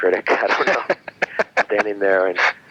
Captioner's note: laughing